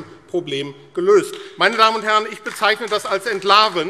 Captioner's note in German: Beifall AfD